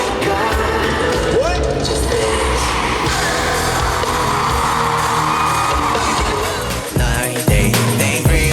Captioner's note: The venue heats up with ARMY's voices